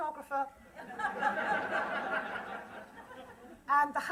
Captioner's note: laughter